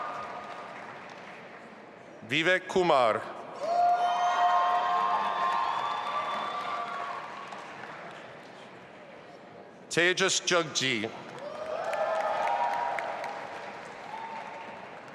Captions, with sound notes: Vivek Kumar. (audience applauding and cheering) Tejas Jaggi. (audience applauding)